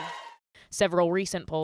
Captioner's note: applause; cheering